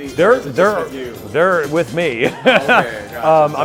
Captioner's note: laughs